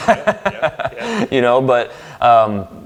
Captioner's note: laughs